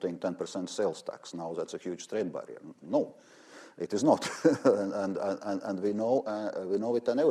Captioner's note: laughs